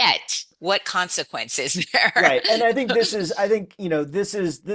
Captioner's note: laughs